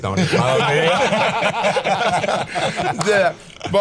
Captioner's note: all laughing